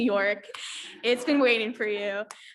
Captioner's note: audience laughs